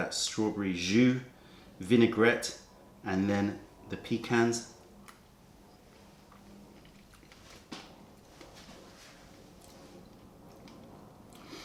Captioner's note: chewing